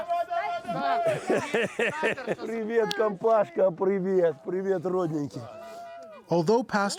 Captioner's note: laughter